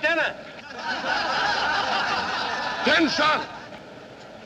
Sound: laughter of men

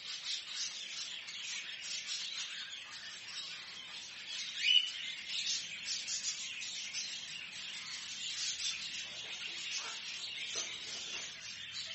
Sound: bird chirping

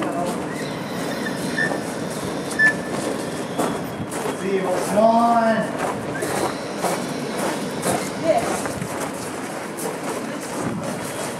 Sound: swan shrieking

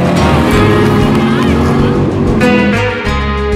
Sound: applause

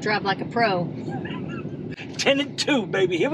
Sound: laughs

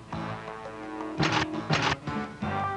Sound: guns click

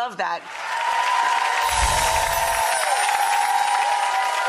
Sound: audience applauds

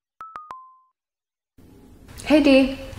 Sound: cellphone chimes

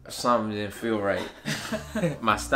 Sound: laughing

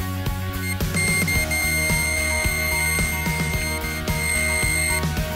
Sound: screaming bite alarm

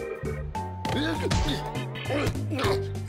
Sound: grunting

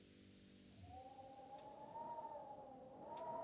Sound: wind blowing through windows

